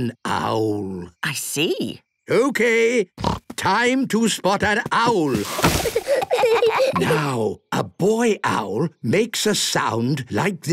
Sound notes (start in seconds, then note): 3.2 snorting; 5.2 kids giggling